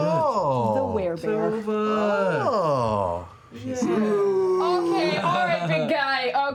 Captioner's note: moans